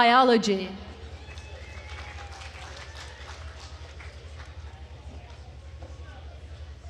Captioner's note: attendees cheering and applauding